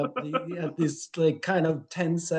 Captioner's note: laughing